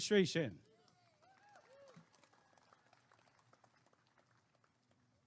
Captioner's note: applause and cheering